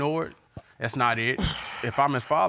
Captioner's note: huffs